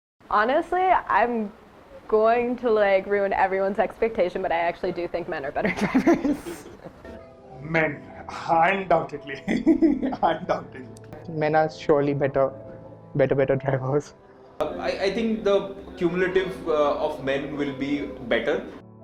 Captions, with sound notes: Honestly I'm going to like ruin everyone's expectation but I actually do think men are better drivers. MEN!! (Laughs) Undoubtedly Men are surely better.. better better drivers. I think the cumulative of men will be better.